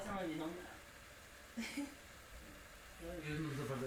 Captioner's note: kitchen ambience